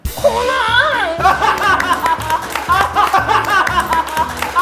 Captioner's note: applause